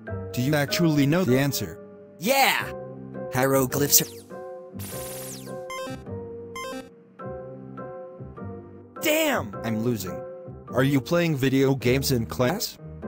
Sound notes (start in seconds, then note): 4.8 laser gun noises; 6.6 low health noises